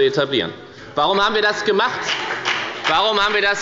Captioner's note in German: Beifall bei der FDP